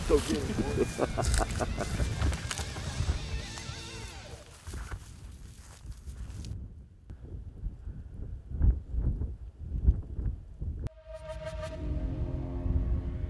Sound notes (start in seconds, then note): 1.8 laughter; 5.1 wind gusting